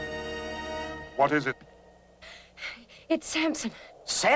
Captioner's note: panting heavily